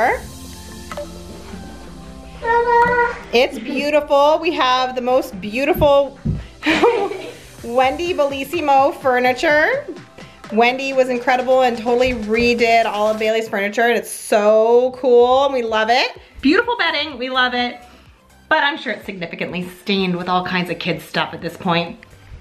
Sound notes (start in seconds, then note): 0.2 gentle music; 6.6 chuckles